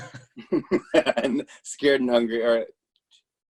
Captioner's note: laughs